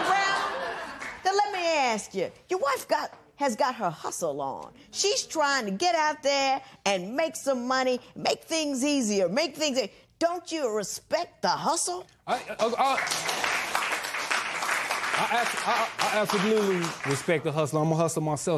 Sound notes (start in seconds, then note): 12.5 applause